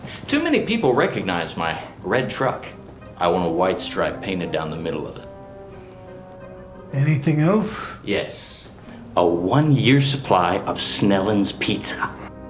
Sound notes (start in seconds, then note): none